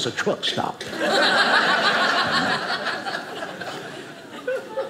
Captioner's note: audience laughing